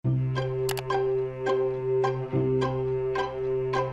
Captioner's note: bright music; clicking